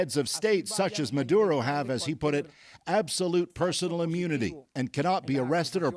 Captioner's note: speaking alternate language